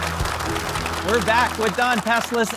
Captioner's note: audience applauds